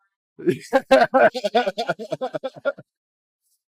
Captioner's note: laughing